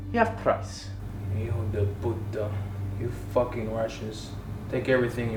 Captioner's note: speaks Spanish